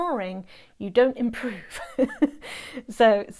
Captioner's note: laughs